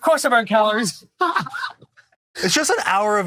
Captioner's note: laughs